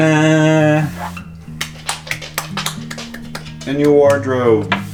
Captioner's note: clapping